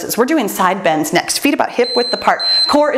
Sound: timer beeps

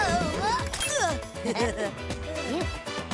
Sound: chuckling

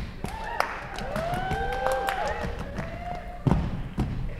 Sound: cheers

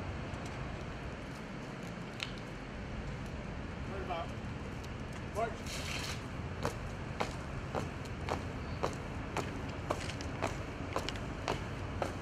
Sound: marching

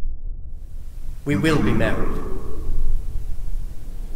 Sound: his voice echoing

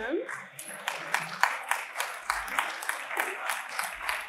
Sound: applause

